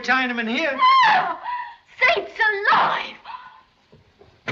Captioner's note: scream